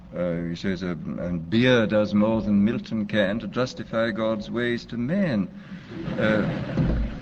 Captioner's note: laughter